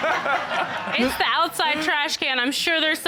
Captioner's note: all laughing